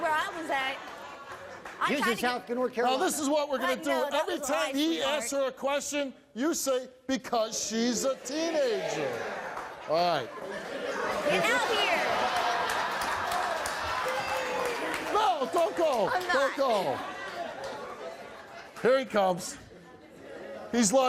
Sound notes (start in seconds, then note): 13.2 laughs